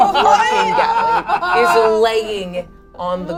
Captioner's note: all shout excitedly